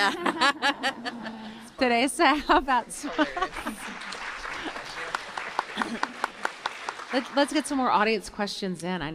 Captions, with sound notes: (laughter) Teresa, how about... (applause) Let's get some more audience questions in.